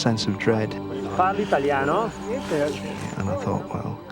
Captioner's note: speaking foreign language